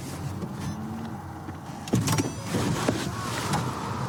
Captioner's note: car door opens